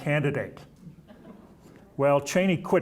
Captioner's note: audience chuckling